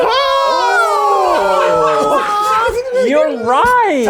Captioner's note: group cheers